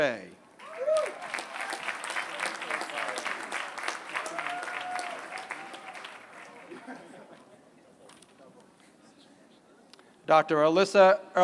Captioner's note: applause